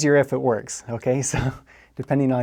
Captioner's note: laugh